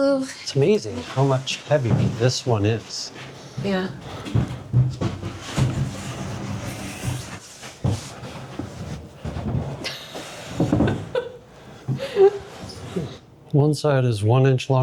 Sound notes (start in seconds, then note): 7.6 laughing